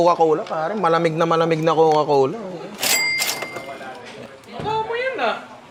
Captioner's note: cash register sound